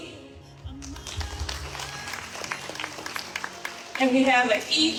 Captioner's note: audience applauding